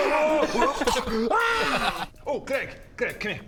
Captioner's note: aaaaaaaaaaaagh!